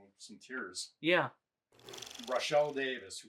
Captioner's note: film reel clicking